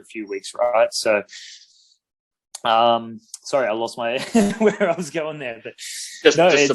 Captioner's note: laughs